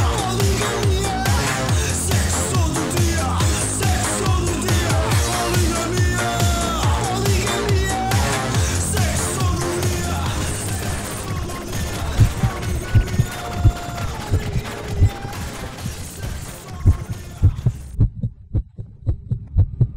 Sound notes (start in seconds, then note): 12.1 heartbeat; 16.7 heartbeat